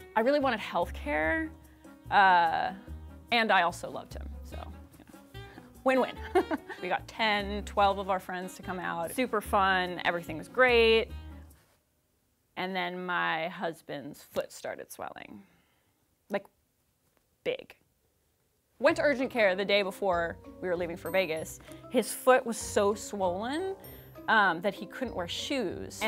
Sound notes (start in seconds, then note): 6.2 laughs